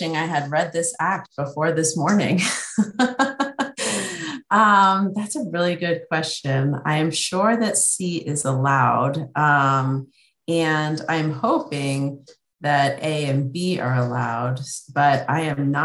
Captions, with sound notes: I had read this act before this morning. (laughs) That's a really good question. I am sure that C is allowed, and I'm hoping that A and B are allowed but I am not sure.